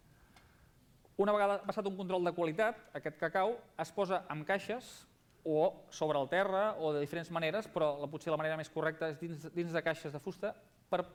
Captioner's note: non-english speech